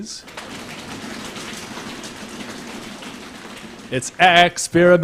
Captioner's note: applause